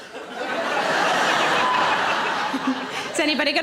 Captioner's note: audience laughing